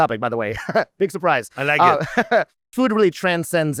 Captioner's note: chuckles